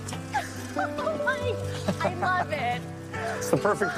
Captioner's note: laughs